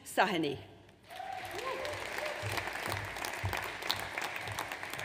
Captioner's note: audience applauds